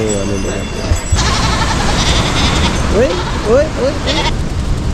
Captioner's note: sheep passing by and bleating; water gushing down